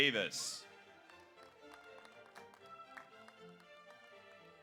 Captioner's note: audience applauds